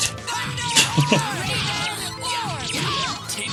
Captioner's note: chuckles